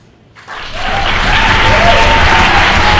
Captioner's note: applause